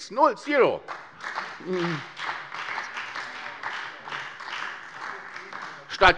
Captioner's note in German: Beifall bei der SPD